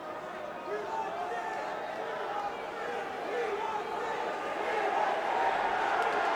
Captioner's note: crowd chants "We want Sid"; cheers